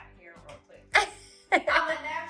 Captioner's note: laughter